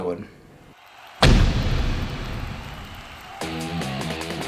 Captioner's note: audience cheering; upbeat music